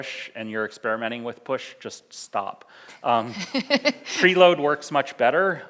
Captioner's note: laughs